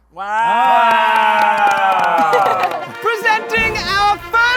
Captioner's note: cheering